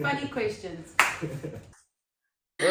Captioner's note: clap